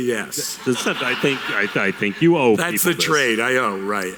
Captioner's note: audience laughter